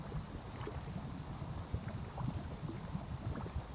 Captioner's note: water trickling